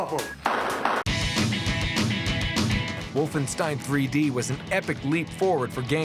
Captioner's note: gunfire; shouting